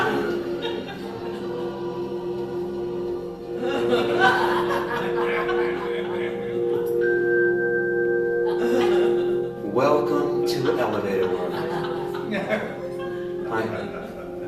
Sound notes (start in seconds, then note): 3.5 laughter; 7.0 elevator dings; 8.4 laughter